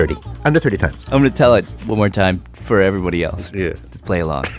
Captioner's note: laughs